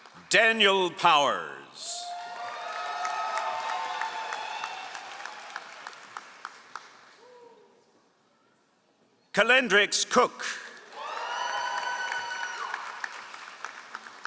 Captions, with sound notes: Daniel Powers. (all applauding) Kalendrix Cook. (all applauding)